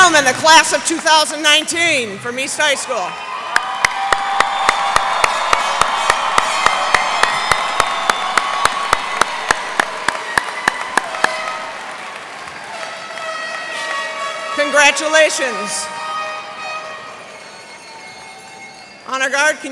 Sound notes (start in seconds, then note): 4.8 cheers and applause